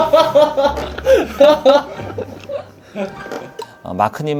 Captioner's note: haha